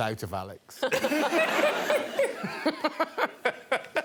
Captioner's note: laughter